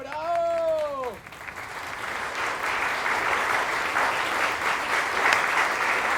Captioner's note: loud applause from the audience